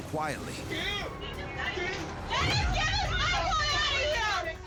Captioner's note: overlapping shouting, cursing